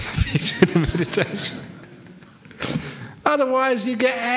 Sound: laughter

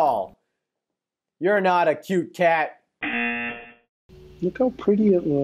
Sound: buzzer rings

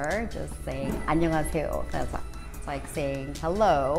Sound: speaking korean

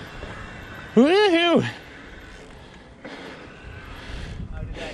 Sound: panting

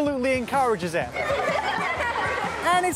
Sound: laughter

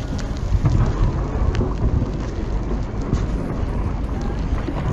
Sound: ice cracks softly

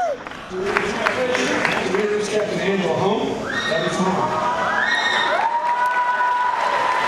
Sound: applause

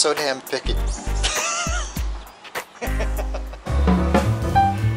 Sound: laughter

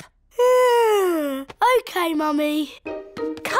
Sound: yawns

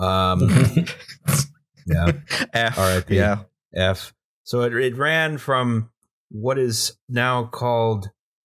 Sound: laughter

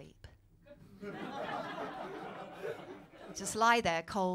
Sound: laughter

